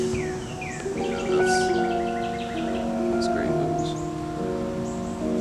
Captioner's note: whispers